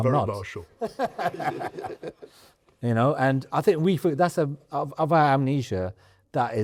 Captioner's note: laughter